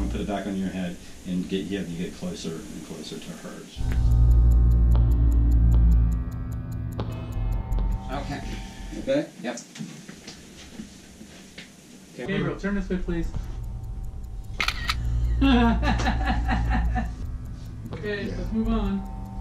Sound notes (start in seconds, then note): 3.7 stopwatch ticking; 3.8 eerie music; 14.5 camera snapping; 15.1 laughing